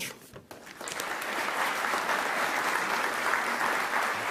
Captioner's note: audience clapping